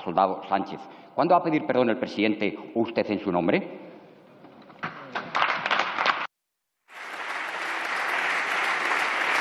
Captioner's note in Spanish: Aplausos